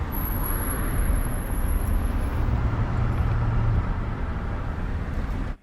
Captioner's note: traffic noise